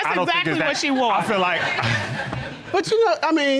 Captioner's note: laughs